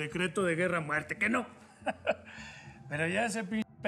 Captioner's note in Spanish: risas